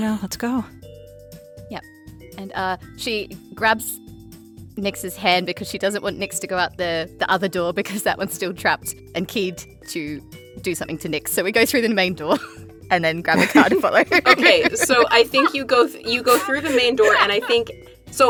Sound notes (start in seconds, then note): 13.3 giggles